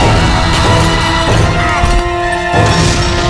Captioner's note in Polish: Krzyk Skauta